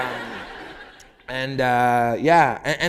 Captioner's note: laughter